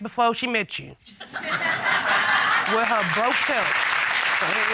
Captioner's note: audience laughing, applauding